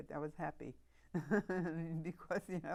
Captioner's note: laughing